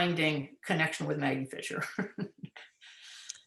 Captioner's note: laughs